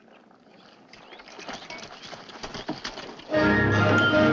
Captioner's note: horse clopping